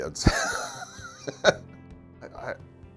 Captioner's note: chuckle